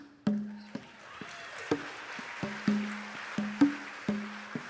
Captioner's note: audience applauds